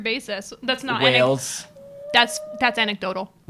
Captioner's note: whale noise